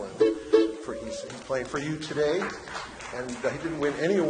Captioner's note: audience applause